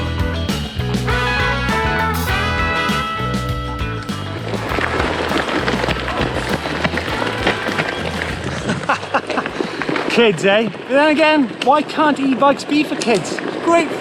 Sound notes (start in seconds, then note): 8.9 laughs